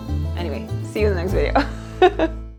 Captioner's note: chuckles